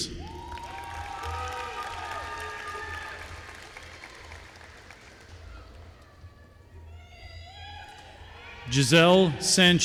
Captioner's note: applause